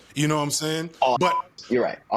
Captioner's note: beep